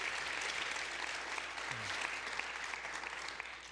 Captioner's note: applause